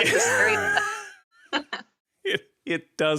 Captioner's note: laughter